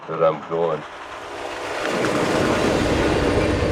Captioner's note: train whistling and whooshing